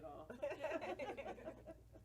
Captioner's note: all laugh